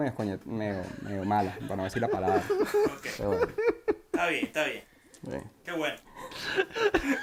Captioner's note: laughs